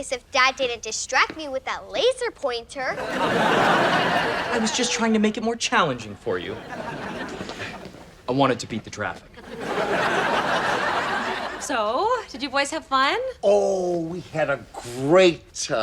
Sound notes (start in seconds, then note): 2.9 audience laughs